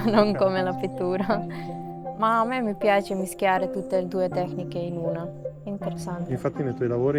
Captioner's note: laughs